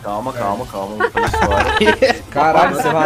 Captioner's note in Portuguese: risos